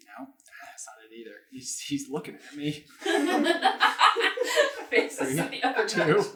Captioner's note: laughter